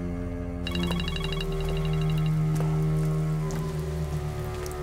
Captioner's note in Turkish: Telefon çalıyor